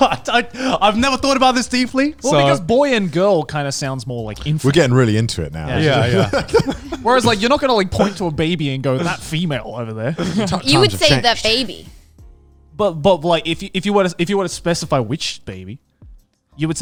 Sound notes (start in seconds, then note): 5.7 all laughing